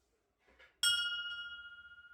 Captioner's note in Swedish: Ding